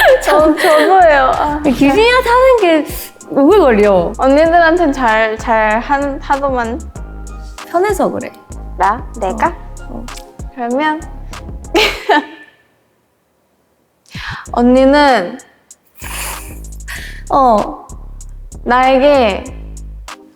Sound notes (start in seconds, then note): 15.8 can't hold back laughter